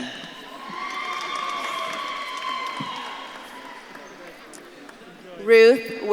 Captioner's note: audience claps and cheers